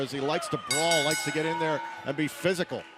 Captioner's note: bell ringing